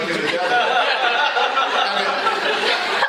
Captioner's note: laughter